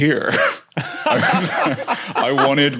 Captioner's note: group laughing